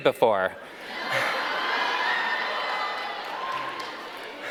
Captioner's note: audience laughing